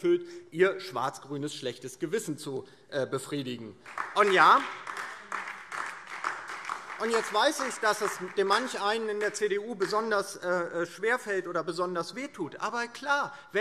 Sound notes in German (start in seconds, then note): 3.8 Beifall DIE LINKE und vereinzelt SPD